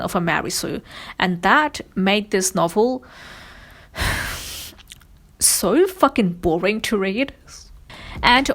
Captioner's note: sighs